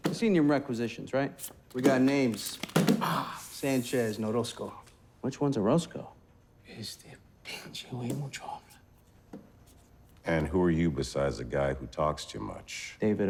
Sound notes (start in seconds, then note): 6.9 Orozco speaking Spanish